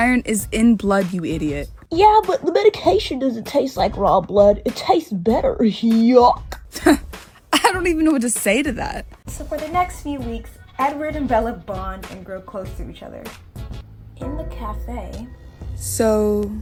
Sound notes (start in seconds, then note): 6.6 laughs